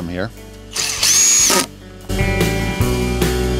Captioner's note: drill buzzing; pleasant music continues